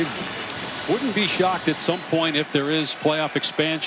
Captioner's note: crowd celebrates